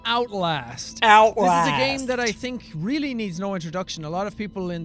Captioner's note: mocking